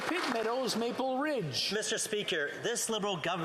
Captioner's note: applause